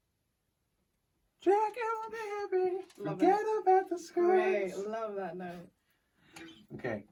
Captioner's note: in falsetto